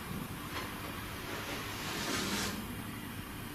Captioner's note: sliding